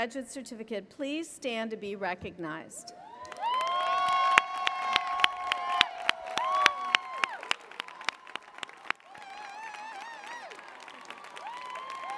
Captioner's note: applause